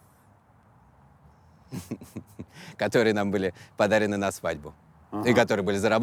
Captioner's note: chuckles